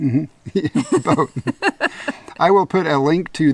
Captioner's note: chuckles